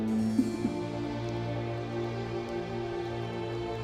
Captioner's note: sobbing; soft music